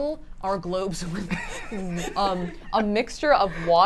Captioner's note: laugh